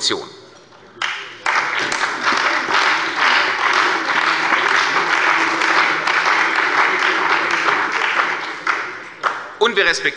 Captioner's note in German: Beifall bei der CDU und dem BÜNDNIS 90/DIE GRÜNEN